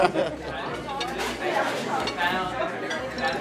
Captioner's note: chatter